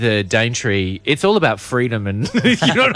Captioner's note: laughs